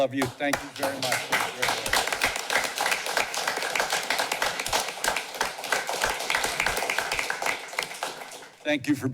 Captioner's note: applause